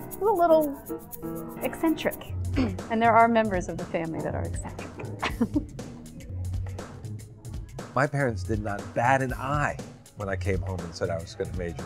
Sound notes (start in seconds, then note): 6.5 laughs